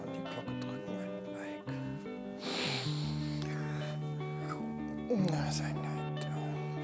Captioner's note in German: Schlafgeräusche